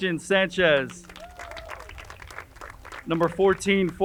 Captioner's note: crowd cheering and applauding